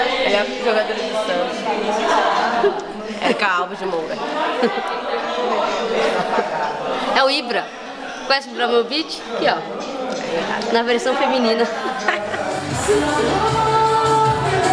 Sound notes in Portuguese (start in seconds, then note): 11.6 risadas; 13.2 música ao fundo